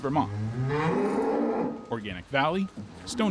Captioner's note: cow mooing